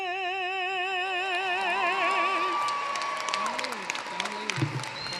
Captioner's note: cheering, applause